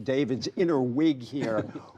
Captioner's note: laughter